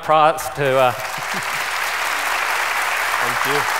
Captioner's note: applause